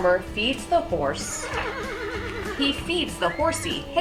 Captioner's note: horse neighs